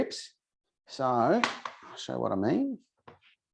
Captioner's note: knife thuds